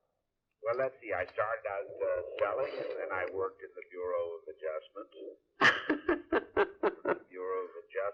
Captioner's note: laughter